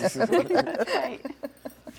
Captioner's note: laughing